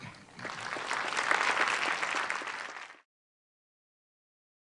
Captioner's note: applause